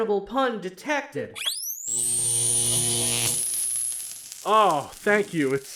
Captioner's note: defibrillator charging and delivering